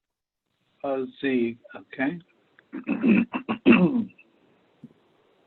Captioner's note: clears throat